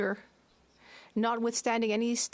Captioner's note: speaking French